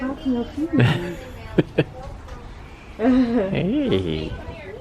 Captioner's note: laughter